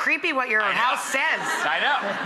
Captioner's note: audience laughing